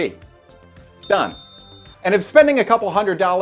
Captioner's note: bell dings